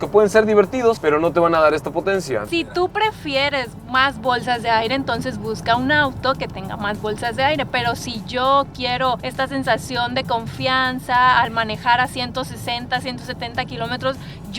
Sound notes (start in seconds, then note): none